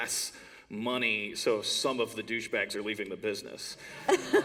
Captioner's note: laughter